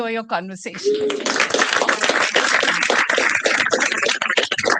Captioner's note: applause